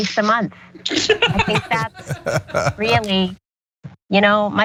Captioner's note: laugh